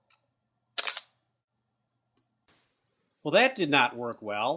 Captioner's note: clicking sound